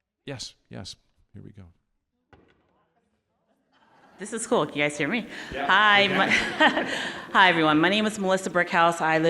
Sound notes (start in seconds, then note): 5.3 audience laughing